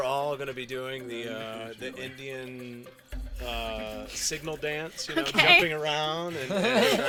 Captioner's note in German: Lachen